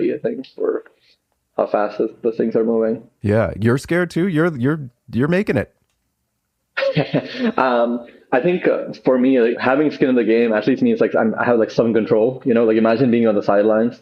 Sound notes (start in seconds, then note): 7.9 laughs